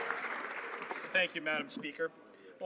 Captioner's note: some Applause